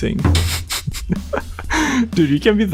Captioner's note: lols